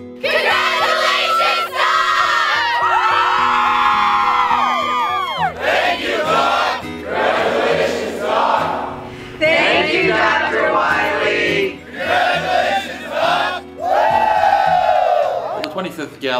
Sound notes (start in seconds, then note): 2.0 cheers; 13.8 cheers